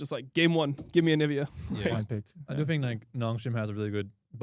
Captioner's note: laughs